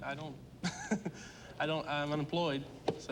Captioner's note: nervous laugh